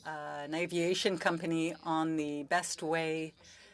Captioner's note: speaking french